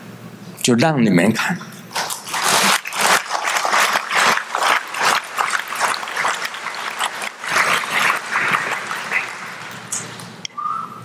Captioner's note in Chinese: 眾鼓掌